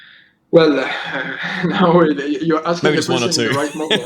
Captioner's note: laughs